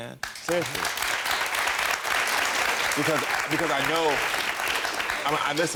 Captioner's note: audience clapping